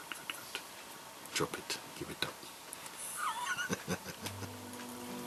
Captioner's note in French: rire